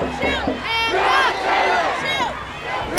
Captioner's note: crowd